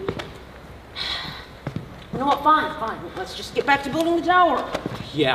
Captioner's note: sigh